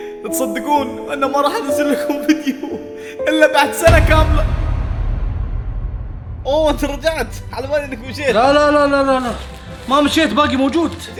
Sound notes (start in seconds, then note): 3.8 cinematic hit